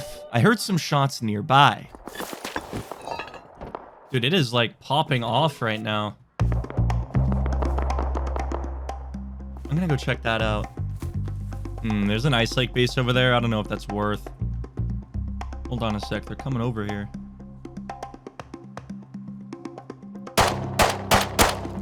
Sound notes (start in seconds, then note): 2.8 gunfire nearby; 7.4 more gunfire